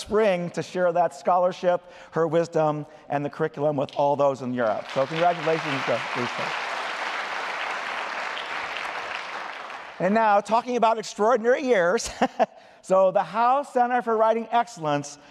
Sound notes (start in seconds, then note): 4.6 applause; 12.0 laughter